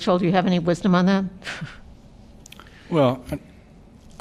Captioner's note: laughter